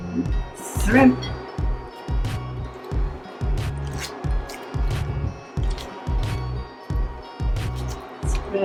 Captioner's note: tongs scrape; shrimp and tongs scrape